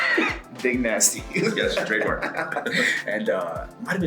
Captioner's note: laugh